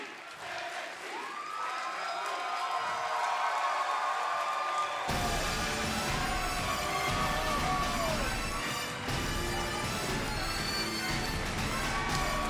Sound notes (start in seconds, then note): 1.4 crowd cheering; 5.1 dramatic music